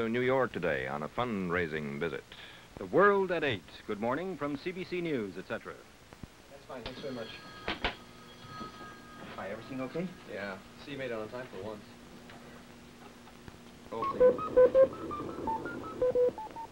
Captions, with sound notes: flew from Shannon to New York today on a fund-raising visit. from CBC News, etcetera.:00g That's fine. Thanks very much. [phone rings] Hi, everything okay? Yeah. See you made it on time for once. [computer bleeps]